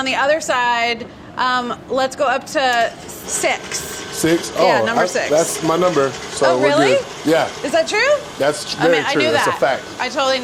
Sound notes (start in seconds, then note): none